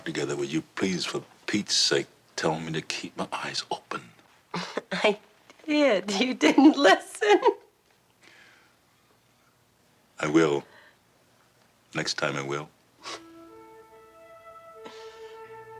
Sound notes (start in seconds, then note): 4.6 laughing; 12.9 tranquil music